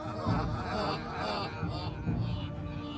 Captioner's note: all laughing